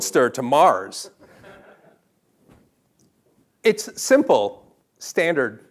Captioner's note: laugh